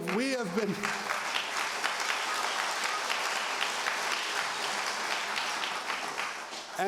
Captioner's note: applause